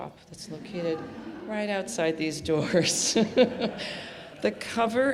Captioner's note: laughs